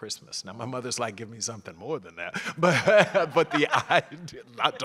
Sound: laugh

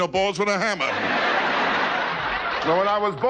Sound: audience laughing

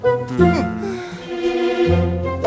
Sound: puzzled sound

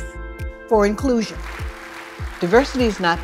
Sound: audience clapping

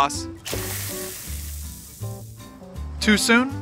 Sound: sizzling

